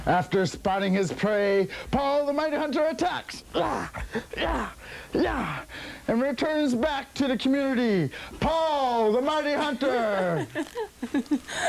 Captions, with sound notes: After spotting his prey, Paul the Mighty Hunter attacks [GRUNTING] and returns back to the community, Paul the Mighty Hunter! [LAUGHING]